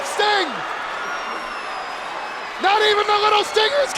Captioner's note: crowd cheering